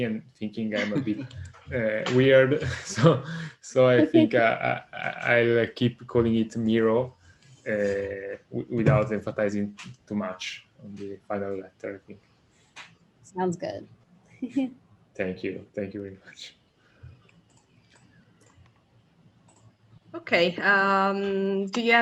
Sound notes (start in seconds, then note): 15.2 laughs